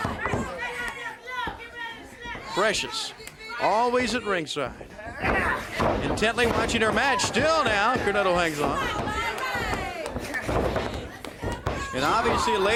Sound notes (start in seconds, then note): 0.0 crowd cheering